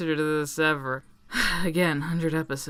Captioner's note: sigh